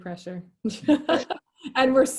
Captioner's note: laughing